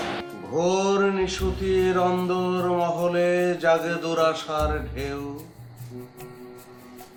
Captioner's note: reciting poetry